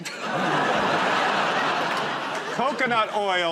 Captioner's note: laughter